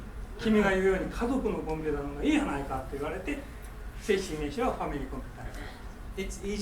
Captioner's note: speaking in foreign language